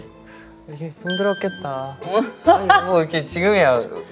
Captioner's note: pat pat